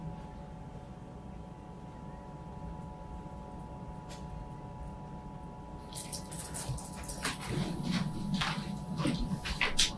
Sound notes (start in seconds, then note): 6.2 keyboard clicking